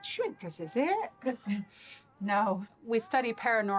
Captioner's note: laughing